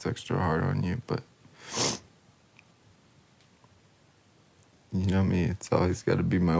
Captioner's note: sniffs